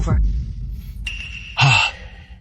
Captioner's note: sigh